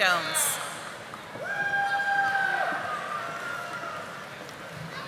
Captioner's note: audience applauding